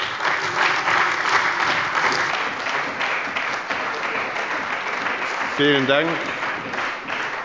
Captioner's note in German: Beifall bei der CDU und dem BÜNDNIS 90/DIE GRÜNEN